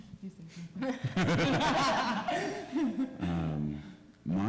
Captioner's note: laughter